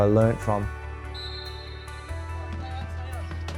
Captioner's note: whistle